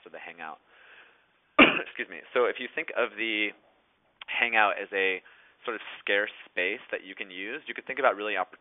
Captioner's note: clears throat